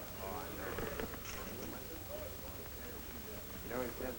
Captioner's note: chatter